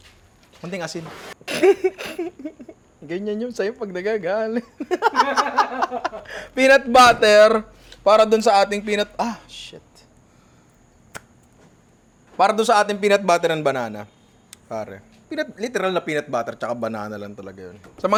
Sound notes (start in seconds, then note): 1.6 laughs; 4.6 laughter